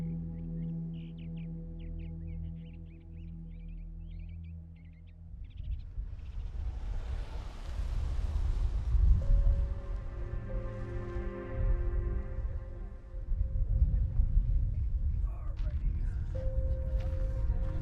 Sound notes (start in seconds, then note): 7.6 car driving on road; 10.8 reverent music